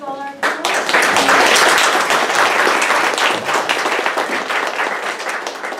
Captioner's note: audience clapping